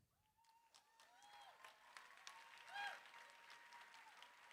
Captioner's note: cheering, applause